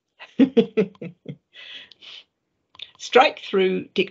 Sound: laughing

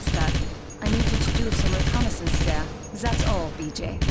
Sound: loud gunfire

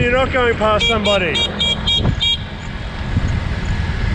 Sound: horn beeps

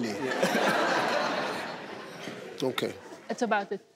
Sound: audience laughing

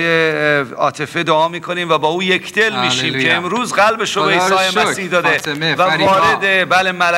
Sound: speaking in foreign language

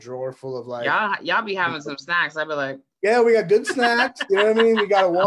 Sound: laughs

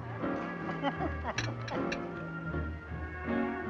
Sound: man chuckling

